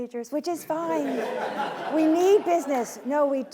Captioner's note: laughing